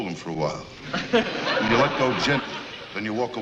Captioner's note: audience laughter